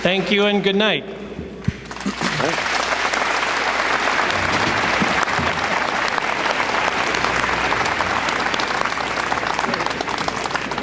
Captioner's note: applause